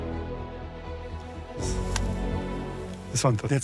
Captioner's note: sighs